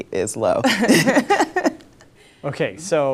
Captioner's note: laughing